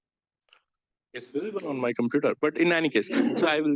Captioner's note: audience laughs